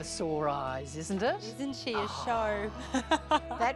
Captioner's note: laughs